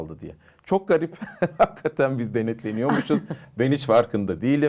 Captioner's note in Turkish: kahkaha